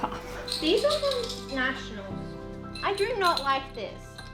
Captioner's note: medals jingle